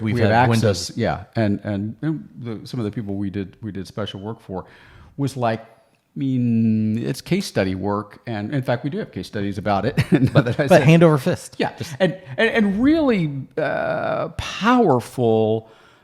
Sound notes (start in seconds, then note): 9.9 chuckles